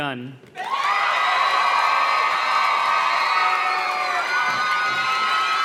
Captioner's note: audience cheers and claps